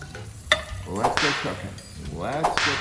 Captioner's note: whip snapping